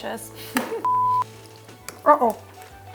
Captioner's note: TV signal beeps